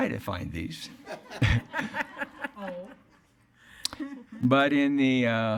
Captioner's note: attendees laughing